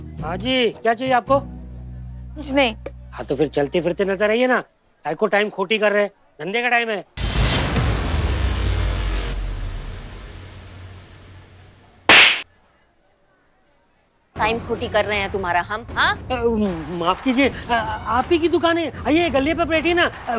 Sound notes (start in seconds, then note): 7.2 tense music; 12.1 slaps